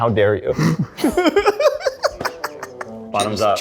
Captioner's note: laugh